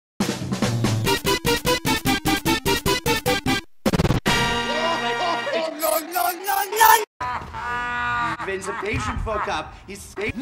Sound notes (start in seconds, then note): 0.4 intro theme music; 4.7 laughing his f*t*zz off; 7.2 laughing loudly